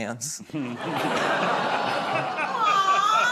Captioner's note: laughter